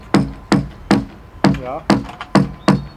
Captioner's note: knock